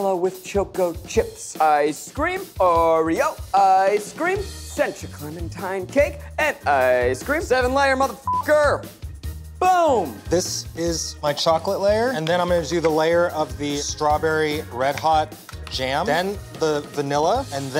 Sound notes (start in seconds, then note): 8.2 beep